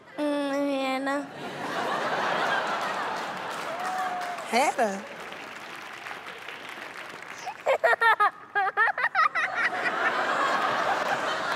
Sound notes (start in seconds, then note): 1.3 laughter; 7.4 laughs; 9.0 laughter